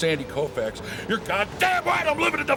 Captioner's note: shouting